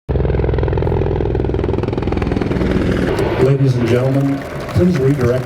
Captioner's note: applause